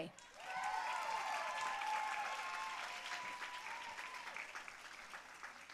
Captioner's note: audience cheering and applauding